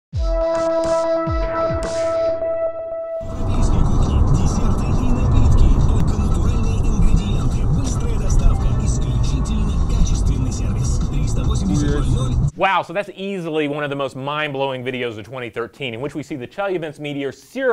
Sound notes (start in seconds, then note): 0.2 upbeat electronic music; 3.4 radio announcer speaking foreign language